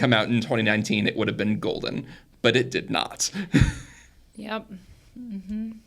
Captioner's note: chuckles